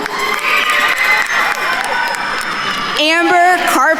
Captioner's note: attendees cheering and applauding